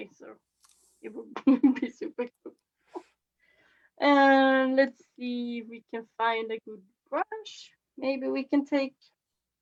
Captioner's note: laughs